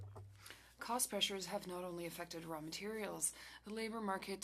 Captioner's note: speaking FRENCH